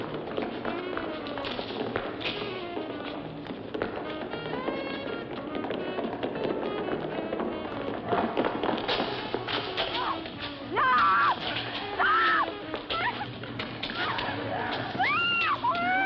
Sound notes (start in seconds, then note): 13.0 screaming